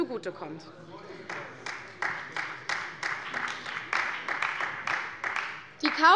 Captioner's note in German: Beifall bei der CDU und dem BÜNDNIS 90/DIE GRÜNEN